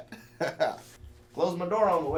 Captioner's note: laughs